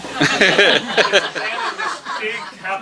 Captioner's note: laughter